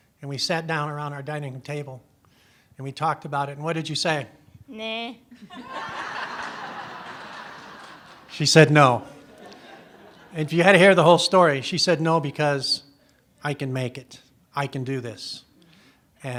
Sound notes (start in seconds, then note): 5.3 laughter